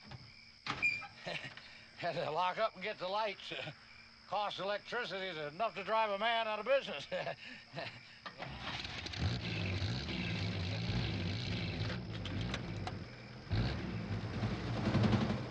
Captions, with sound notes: (chuckles) Had to lock up and get the lights. Cost of electricity is enough to drive a man out of business. (starts engine)